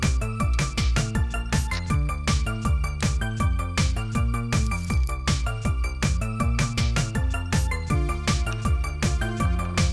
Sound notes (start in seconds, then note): 0.9 squishy Glue Noises